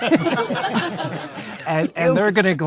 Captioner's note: audience laughing